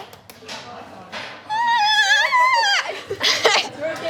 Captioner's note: clapping; squeals; laughter